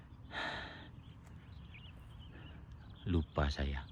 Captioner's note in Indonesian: menghela napas; terkesiap